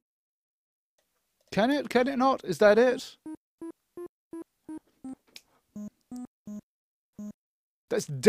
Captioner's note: beeping